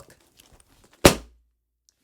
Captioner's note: thud